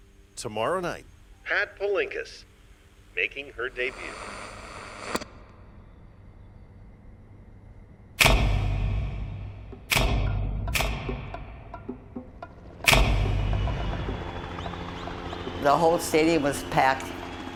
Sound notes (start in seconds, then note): 3.2 radio static; 8.2 resounding clunks; 13.5 helicopter whirring; 15.5 pat